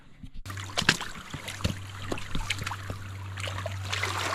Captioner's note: water splashing